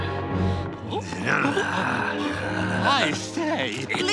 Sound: growls

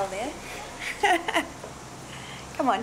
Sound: she laughs

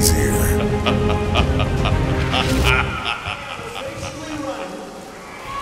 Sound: fake evil laugh

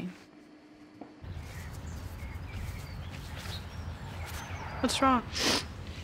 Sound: birds chirping

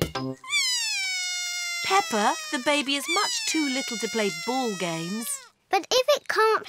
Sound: bawls

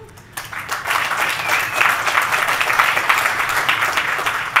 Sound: crowd clapping

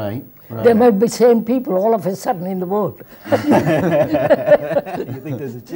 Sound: laughter

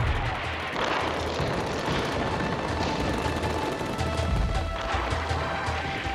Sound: bombs exploding; explosions booming; guns firing

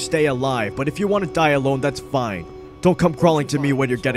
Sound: alarm blares

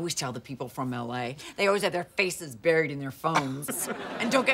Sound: chuckles

